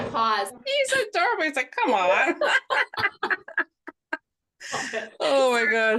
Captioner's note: both laugh